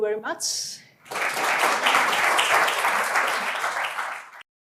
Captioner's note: clapping